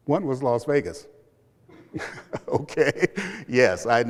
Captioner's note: laughter